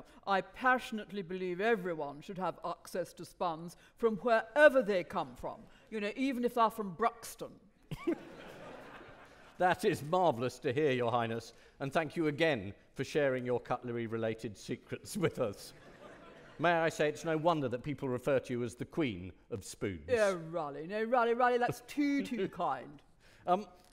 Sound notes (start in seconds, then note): 8.0 audience laughing